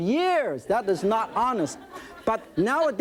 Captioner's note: audience laughing